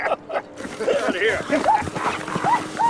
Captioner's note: whooping